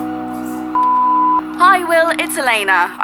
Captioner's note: phone beeping